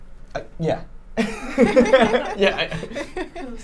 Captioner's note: group laughs